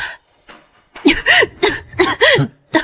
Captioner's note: cough cough